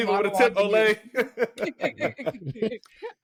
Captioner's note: laughing